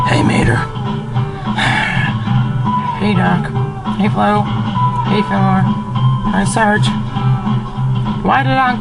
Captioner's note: sighs